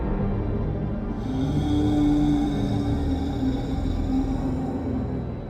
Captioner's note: dramatic horror music; creature groans